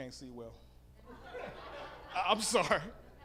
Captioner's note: audience laughing